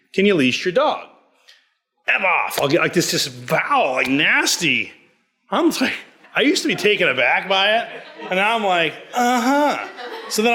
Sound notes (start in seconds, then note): 5.8 laughs